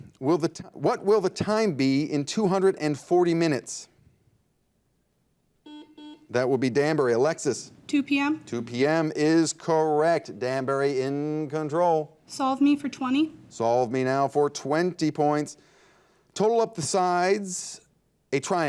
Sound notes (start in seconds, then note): 5.6 buzzer dings